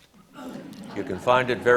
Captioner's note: audience laughs